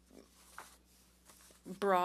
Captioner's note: speaking French